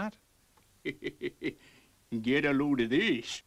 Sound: softly chuckles

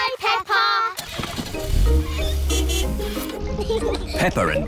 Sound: car starts; toots horn

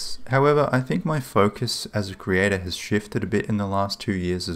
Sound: none

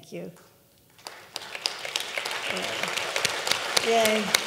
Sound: audience clapping

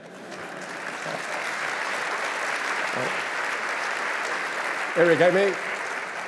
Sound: applause and laughter

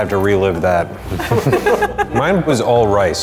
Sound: laughing

